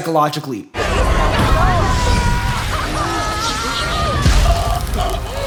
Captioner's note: screams